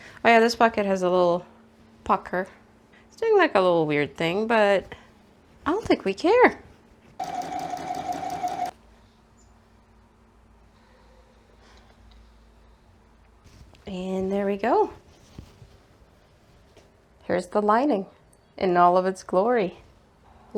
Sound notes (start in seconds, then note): 7.2 sewing machine noises